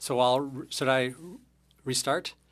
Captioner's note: speaking French